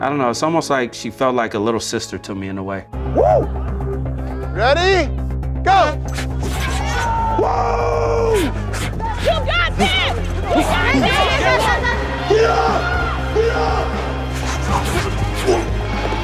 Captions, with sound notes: I don't know, it's almost like she felt like a little sister to me in a way. - Whew! - Ready? Go! (teammates shout) (compelling music)